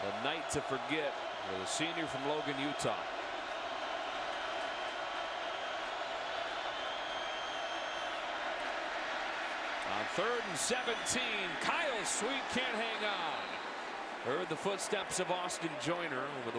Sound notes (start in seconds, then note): 4.2 crowd cheering